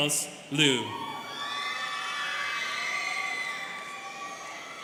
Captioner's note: students cheering